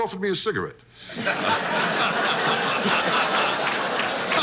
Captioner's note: audience laughs